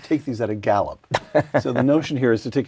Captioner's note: laugh